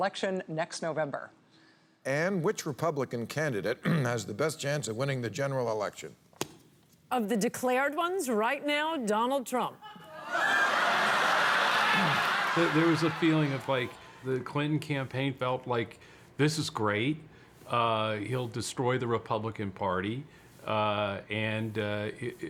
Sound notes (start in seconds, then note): 14.5 crowd laughs